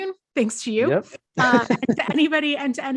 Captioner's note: laughs